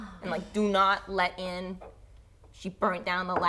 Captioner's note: none